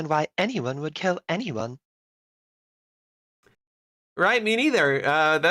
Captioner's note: pause